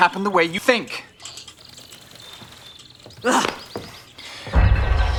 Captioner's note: birds chirping; ominous music